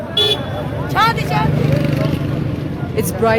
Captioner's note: car horn honks